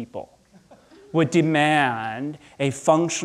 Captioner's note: audience chuckling